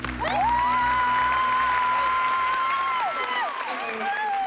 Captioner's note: cheering and applause